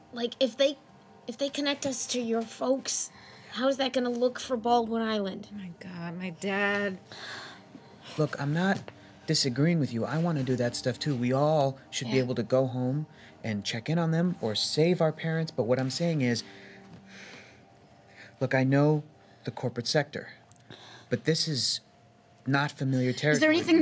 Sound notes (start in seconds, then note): 7.7 sigh